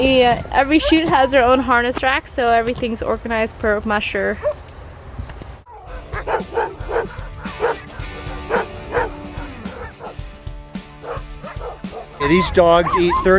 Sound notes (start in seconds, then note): 5.6 dogs bark; 11.2 upbeat music